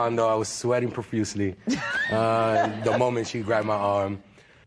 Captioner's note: laughter